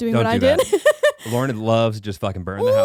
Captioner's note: laughing